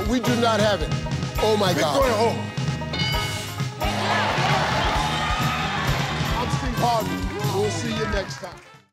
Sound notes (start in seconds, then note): 3.8 audience cheers